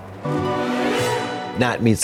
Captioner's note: ghostly chime